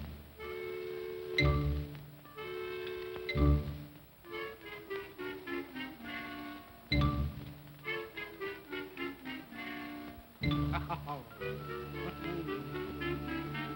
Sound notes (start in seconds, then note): 0.0 ominous music; 10.7 woman chuckles; 12.9 ominous whimsical music